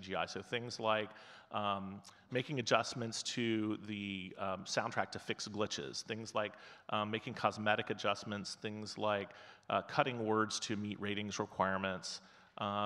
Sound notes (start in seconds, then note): none